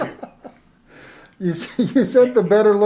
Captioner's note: laughs